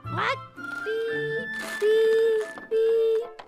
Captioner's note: continues beeping